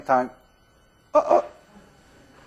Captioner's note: exclaims